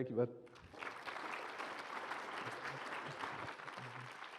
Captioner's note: applause